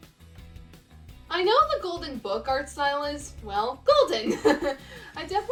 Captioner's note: laughs